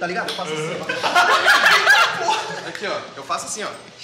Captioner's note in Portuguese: risadas